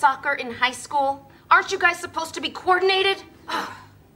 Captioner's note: groans